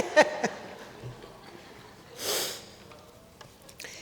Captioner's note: laughter